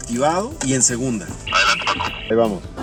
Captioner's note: voice on radio